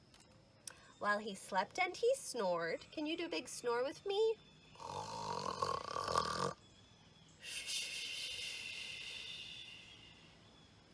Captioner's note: snoring noise